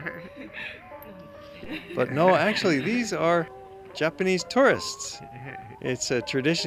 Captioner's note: laughter